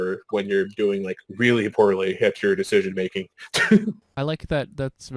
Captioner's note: laughing